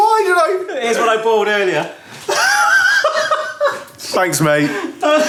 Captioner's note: laughs